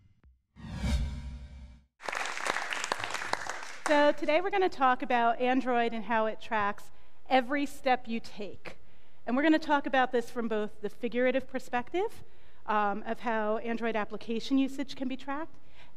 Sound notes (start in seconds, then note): 2.0 audience applauding